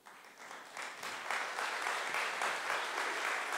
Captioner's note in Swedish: Applause